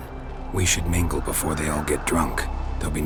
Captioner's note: none